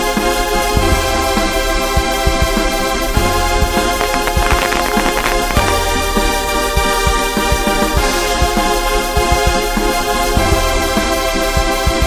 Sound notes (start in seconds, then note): 3.9 electricity crackling; 6.9 intense instrumental music continues